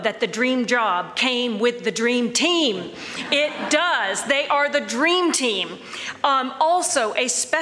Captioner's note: laughter